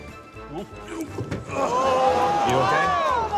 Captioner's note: grunts